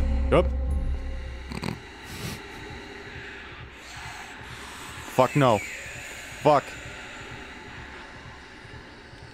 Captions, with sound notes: uop.. *sniggers* Fuck no FUCK